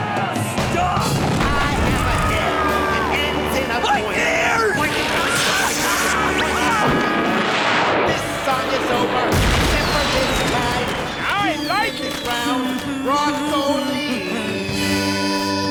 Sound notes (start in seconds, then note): 11.1 humming